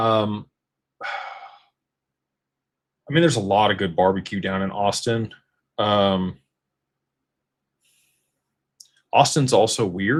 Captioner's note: sighs